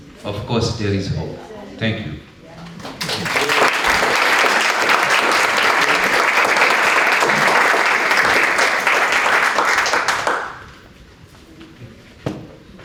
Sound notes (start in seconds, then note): 2.8 applause